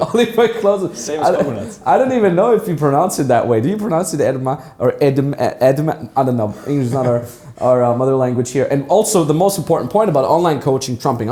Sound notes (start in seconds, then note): 0.0 laughs; 5.1 stutters